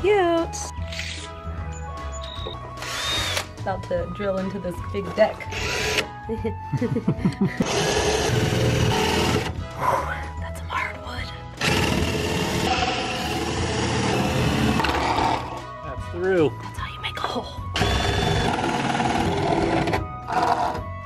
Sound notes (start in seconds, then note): 6.3 giggling; 7.6 drilling noises; 10.1 weighty exhale, then whispered; 11.6 drilling noises; 16.7 whispered; 17.7 drilling noises